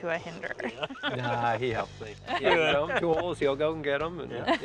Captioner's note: laughter